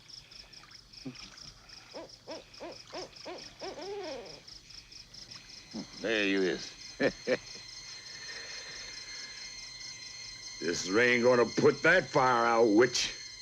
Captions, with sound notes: There you is. (laughing) This rain goin' to put that fire out, witch.